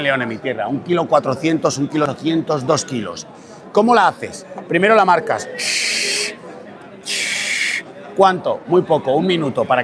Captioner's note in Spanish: resoplido